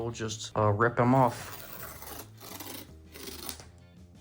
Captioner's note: opening pull tab rips off from bottom of box